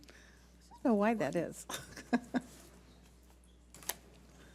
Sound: laughs

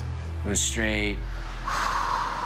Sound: sigh

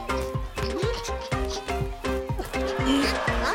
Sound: Bongalalas grunting; player grunts

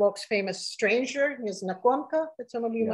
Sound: speaking russian

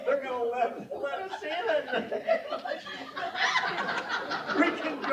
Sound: laughter

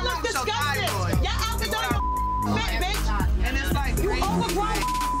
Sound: beep; beep

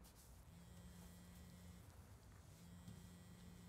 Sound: phone vibrating

